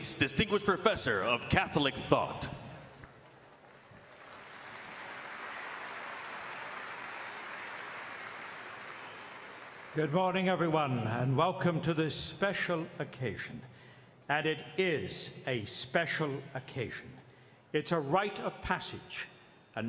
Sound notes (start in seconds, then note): 3.0 audience applauding